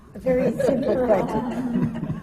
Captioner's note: laughs; laughter